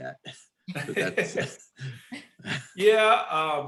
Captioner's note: laughs